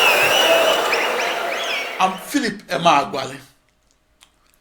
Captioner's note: wild applause and cheering for 22 seconds